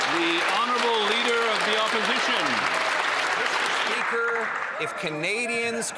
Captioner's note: cheering and Applause